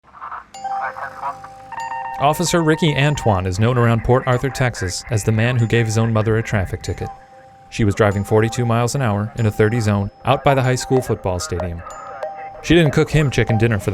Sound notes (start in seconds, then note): 0.1 static of walkie talkie; 1.9 voiceover